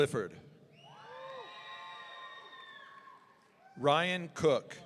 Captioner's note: audience cheering